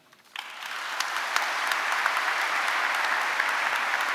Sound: audience applauding

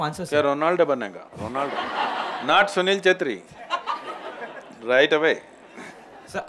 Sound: laughter

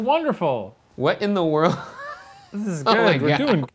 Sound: laughs

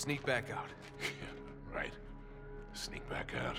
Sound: laughing

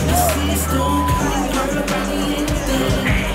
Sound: beep

